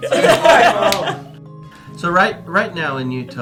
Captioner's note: laughter